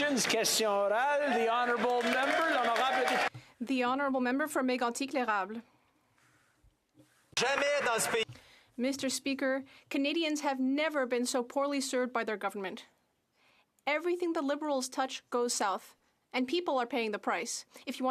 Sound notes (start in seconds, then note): 0.0 applause; 6.4 speaking French